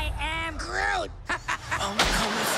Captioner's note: laugh